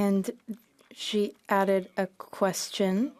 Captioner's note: speaking French